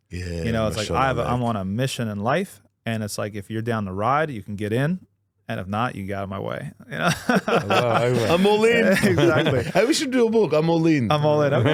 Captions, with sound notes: It's like, I'm on a mission in life. And it's like, if you're down the ride, you can get in. And if not, you got it my way. (all laughing) I'm all in. Exactly. Hey, we should do a book. I'm all in. I'm all in.